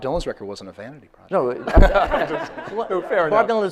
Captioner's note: audience laughs